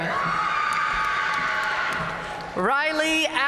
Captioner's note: audience cheering and applauding